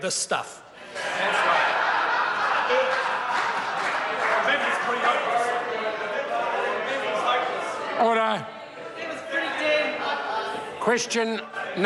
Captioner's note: members laugh